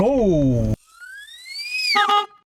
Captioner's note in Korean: 전동 휠체어 소리; 경적 소리